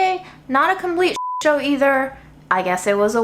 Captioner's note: beeps